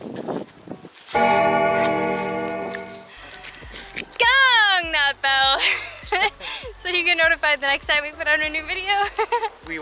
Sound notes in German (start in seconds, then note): 1.1 Klingel läutet; 5.0 Gelächter